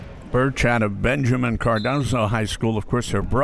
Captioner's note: referee blows whistle